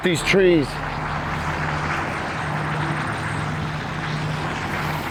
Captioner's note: traffic roaring past